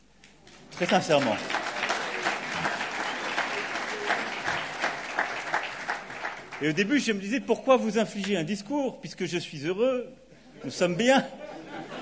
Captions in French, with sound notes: Très sincèrement. (Applaudissements) Et au début, je me disais : pourquoi vous infliger un discours ? Puisque je suis heureux, nous sommes bien.